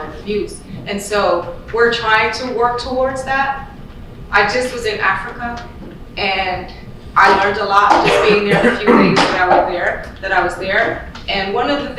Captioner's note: loud coughing